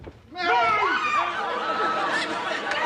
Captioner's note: squeals